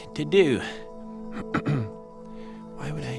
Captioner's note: ahem